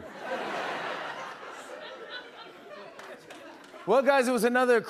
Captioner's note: laughter